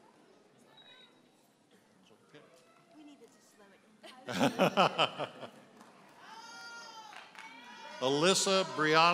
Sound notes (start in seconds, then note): 4.2 laughing